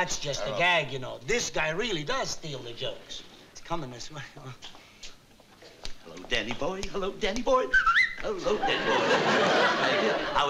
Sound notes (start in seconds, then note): 5.7 singing; 7.6 whistles